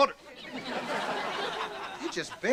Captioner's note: audience laughter